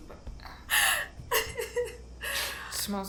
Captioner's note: Kenza laughs